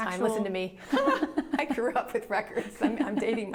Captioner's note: laughing